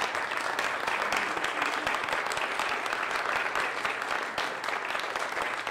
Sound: clapping

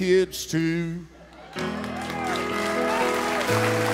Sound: cheers and applause

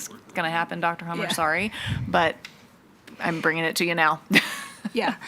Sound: laughs

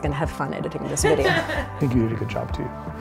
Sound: laughter

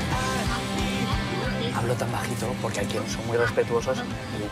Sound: in a low voice

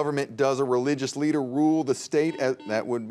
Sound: buzzer beeps

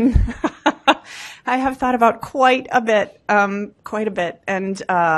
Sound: laughs

